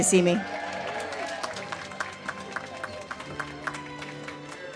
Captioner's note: audience cheers and claps